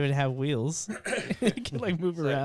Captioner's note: laughing